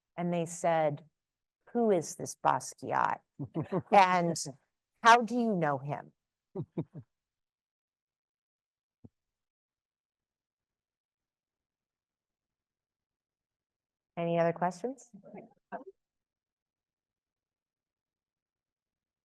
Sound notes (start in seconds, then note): 6.5 chuckles